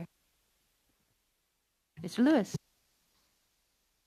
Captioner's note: speaking French